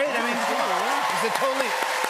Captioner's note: cheers and applause